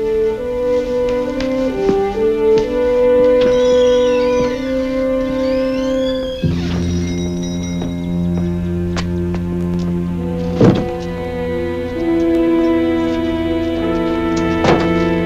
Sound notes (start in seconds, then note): 3.8 door opens and closes